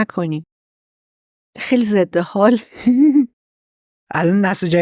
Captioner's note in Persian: خنده